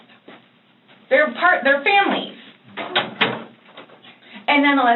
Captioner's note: door clicks shut